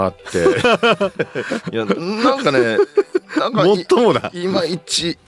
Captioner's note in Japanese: 笑い